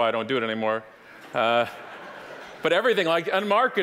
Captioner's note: audience laughing